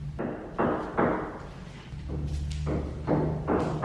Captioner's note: hammering